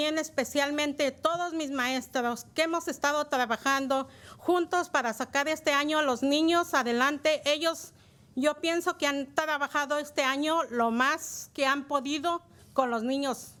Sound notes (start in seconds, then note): 3.0 speaking in spanish